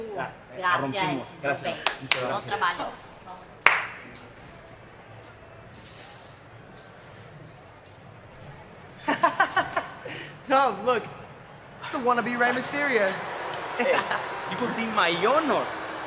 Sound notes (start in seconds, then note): 1.0 spanish language; 9.0 chuckles